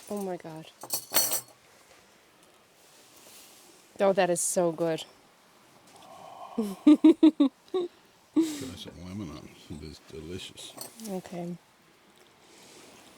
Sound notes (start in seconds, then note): 6.0 gasping; 6.5 laughing